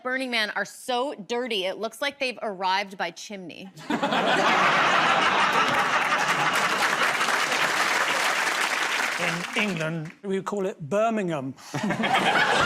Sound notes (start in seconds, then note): 3.8 laughter; 6.9 applause